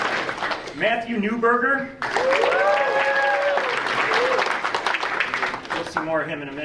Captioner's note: audience applauding; audience applauding